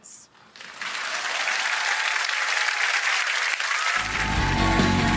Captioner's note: audience applauds